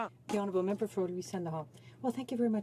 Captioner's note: speaking French